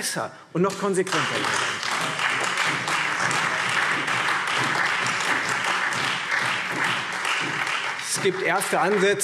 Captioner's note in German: Beifall Freie Demokraten, SPD und AfD